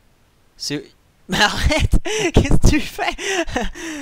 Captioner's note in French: rire